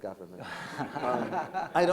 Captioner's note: laughter